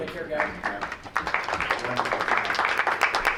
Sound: crowd applauds

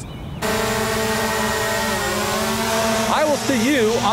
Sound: drone motor running

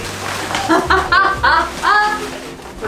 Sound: laughing

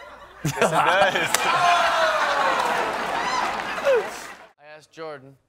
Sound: laughter

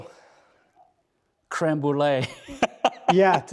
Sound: laughing

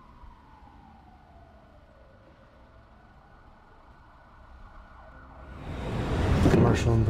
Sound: sirens blaring

